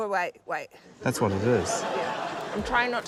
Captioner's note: laughter